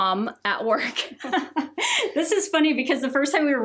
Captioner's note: both laugh